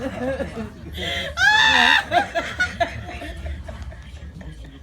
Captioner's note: howling Laughter